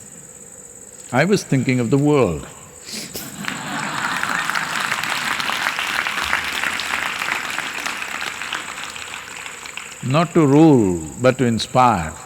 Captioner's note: laughter